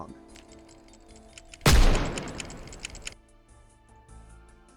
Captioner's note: bang